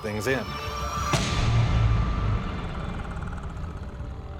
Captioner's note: growling